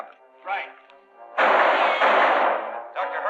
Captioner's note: gunshots